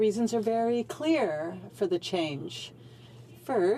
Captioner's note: speaking French